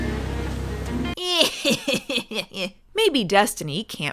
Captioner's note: narrator, laughing